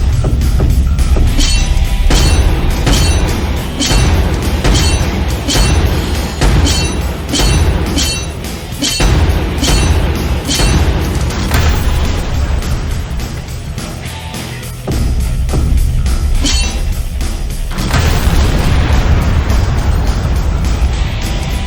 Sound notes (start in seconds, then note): 0.3 footsteps thudding; 1.2 metal clanging; 2.1 explosions booming; 16.4 metal clanging; 17.8 explosion booming